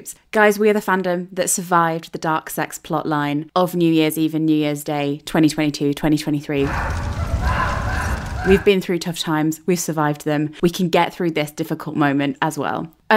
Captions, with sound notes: Guys, we have a fandom that survived the dark sex plot line of New Year's Eve and New Year's Day 2022, 2023. (flames crackling) (pained screams) We've been through tough times, we've survived them. We can get through this difficult moment as well.